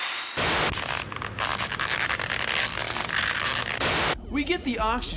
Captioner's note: creaking continues